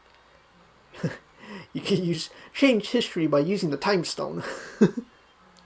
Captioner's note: soft chuckles